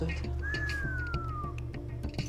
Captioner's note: whistles